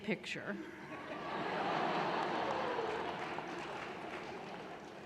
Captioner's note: audience laughing